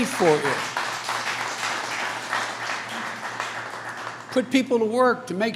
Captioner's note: applause